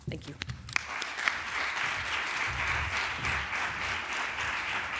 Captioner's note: applause